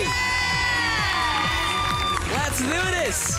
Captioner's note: loud cheering, clapping